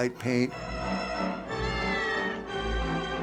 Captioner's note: meows